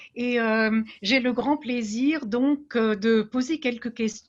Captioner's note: speaking French